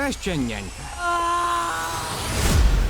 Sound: man 2 screaming

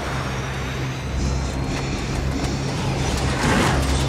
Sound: breathing heavily

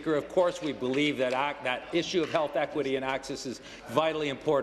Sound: applause

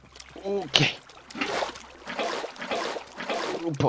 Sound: sounds of persistence and lots of water

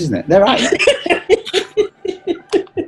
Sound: laughter

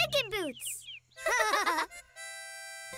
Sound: laughing

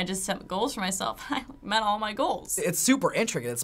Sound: laughs

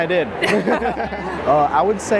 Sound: both laughing

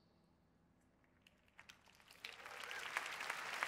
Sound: applause

